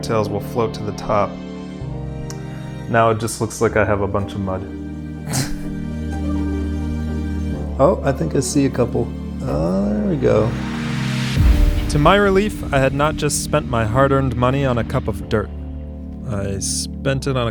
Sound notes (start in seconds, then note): 5.2 laughing